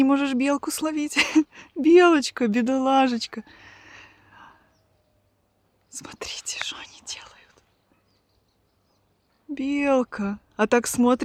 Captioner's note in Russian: вздыхает